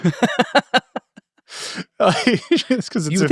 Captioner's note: both laughing